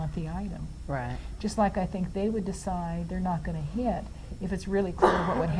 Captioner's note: audience member coughs